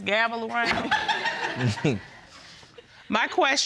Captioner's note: audience laughing